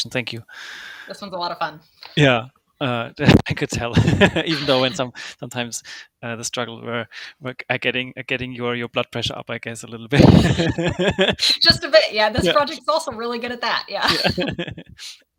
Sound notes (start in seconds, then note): 3.8 laughs; 10.1 host laughing